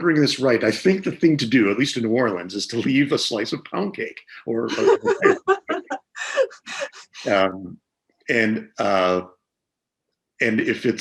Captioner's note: laughs